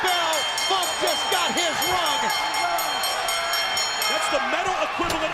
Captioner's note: bell ringing